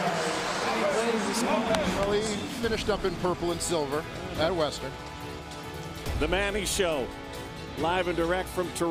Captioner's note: applause